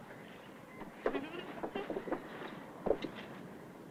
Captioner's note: laugh